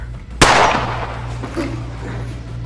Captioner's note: gunshot